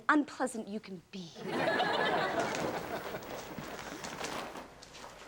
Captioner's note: audience laughs